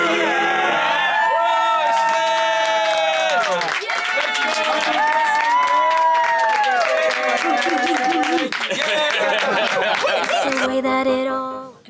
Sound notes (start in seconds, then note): 0.1 cast cheering; 1.6 cast applauding; 7.4 cast member laughing